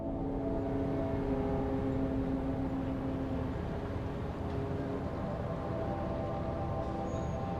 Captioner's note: boat horn blaring